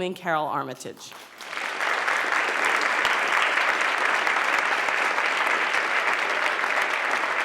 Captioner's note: applause